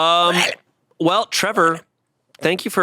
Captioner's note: growls